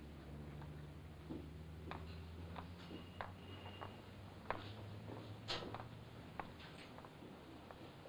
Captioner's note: footsteps outside